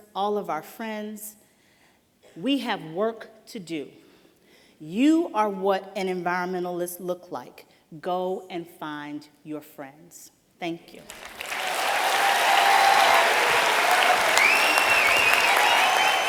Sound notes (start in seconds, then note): 11.0 applause